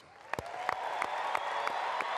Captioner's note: applause